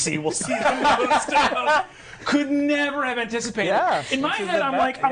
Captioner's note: others laughing